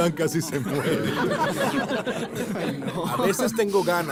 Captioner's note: risas